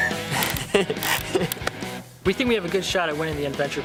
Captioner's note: laughing